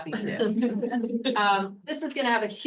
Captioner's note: attendees laughs